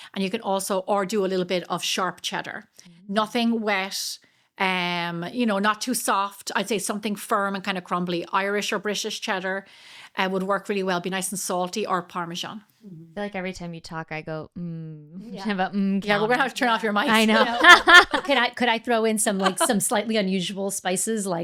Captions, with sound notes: And you can also, or do a little bit of sharp cheddar. Nothing wet, not too soft. I'd say something firm and kind of crumbly, Irish or British cheddar would work really well. Be nice and salty or Parmesan. Like every time you talk, I go, "Mmm." Yeah, we're gonna have to turn off your mic. I know. (laughs) Could I throw in some slightly unusual spices,